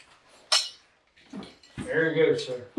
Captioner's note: belt buckle clanks